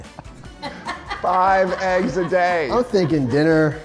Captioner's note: laughs